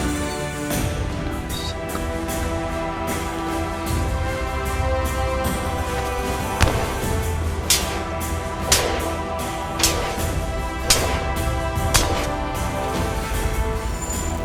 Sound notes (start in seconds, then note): 0.0 metals clanking